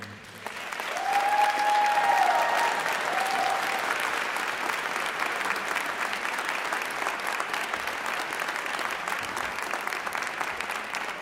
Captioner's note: applause